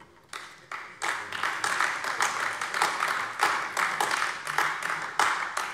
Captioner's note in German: Beifall AfD